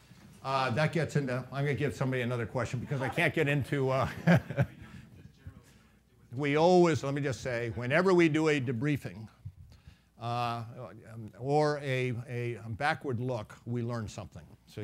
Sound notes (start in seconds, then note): 4.0 laughing